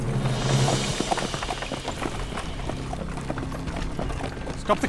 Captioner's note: horses galloping